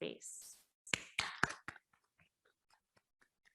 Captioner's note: claps